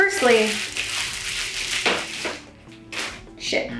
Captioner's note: plastic crumpling